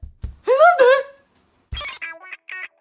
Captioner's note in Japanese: 高い声で